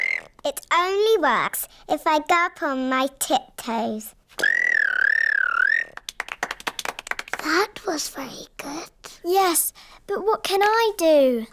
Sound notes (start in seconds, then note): 0.0 high-pitched whistle; 4.4 whistles